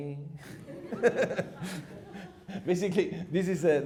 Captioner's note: laughing